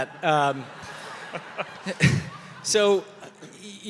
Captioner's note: audience laughing